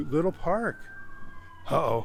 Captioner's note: sirens blare